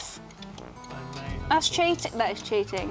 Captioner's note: murmurs